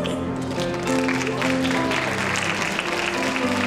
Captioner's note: cheering